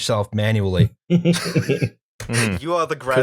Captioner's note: laughter